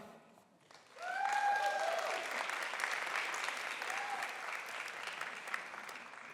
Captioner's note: applause